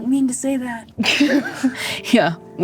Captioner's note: laughing